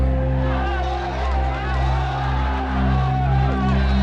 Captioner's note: crowd clamoring